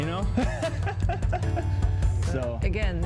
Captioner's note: laughs